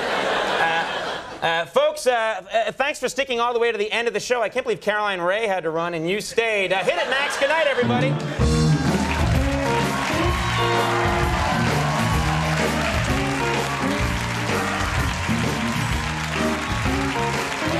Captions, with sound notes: (laughter) Uh, folks, thanks for sticking all the way to the end of the show. I can't believe Caroline Rhea had to run and you stayed. Hit it Max! Goodnight, everybody! (upbeat music) (cheering)